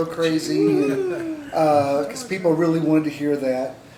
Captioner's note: laughter